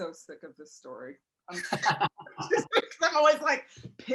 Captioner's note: laughter